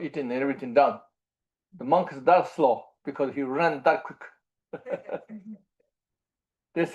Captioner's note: laughs